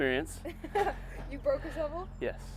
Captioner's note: laughs